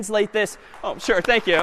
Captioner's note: applause